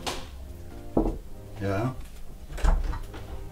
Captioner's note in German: klopfen an der Tür